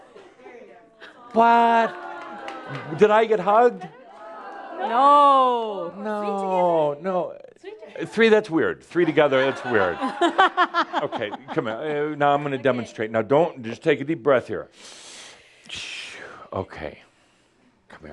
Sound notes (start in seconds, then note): 9.1 more chuckles